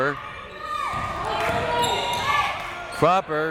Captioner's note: crowd members shouting